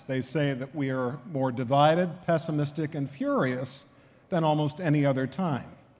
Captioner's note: none